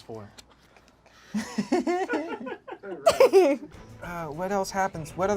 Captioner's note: group laughs